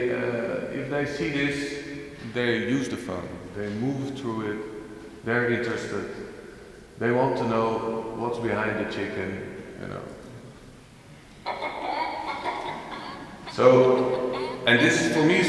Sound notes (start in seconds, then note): 11.4 chicken audio starts